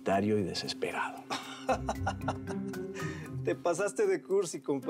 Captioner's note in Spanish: risas